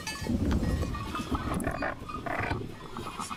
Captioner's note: dog growling; man speaking native language